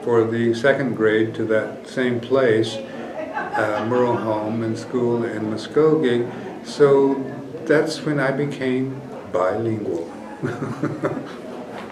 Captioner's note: laughs